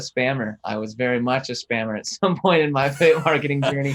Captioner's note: laughs